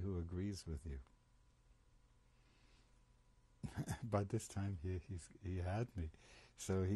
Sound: pauses for 3 seconds

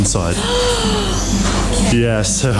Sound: exclaims

